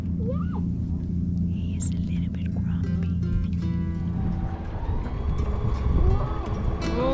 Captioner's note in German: flüstert